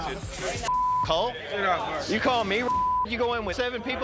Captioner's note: beep